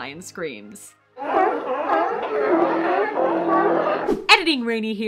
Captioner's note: sea Lions Screaming Expletives